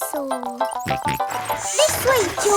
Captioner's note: george snorts